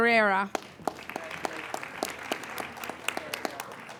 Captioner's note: applauding